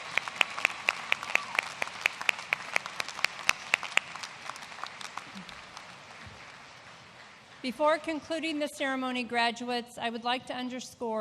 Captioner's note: applause